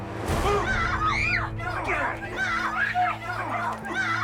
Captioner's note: screaming